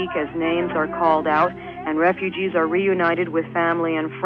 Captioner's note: archival news audio